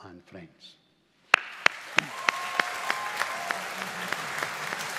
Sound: graduates applauding

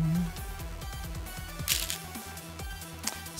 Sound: stones rattling

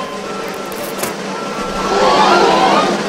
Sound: rope snap; crowd gasps

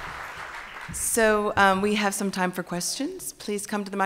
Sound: applause

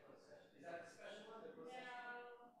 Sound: faintly speaking

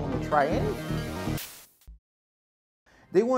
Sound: static noise

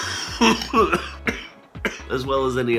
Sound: coughing

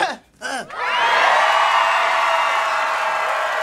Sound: cheering

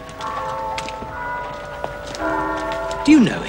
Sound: church clock striking

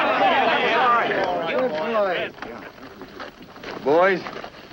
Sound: crowds' voices overlapping excitingly

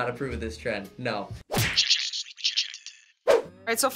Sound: splat; voice-over

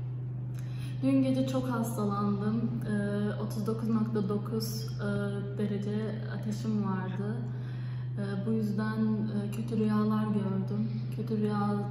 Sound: speaking Debrecenish

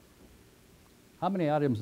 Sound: pause

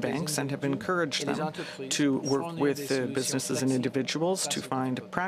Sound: speaking french

